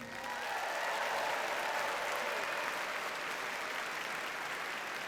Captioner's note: audience cheers and applauds